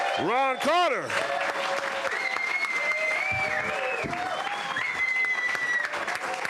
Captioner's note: audience applauding and cheering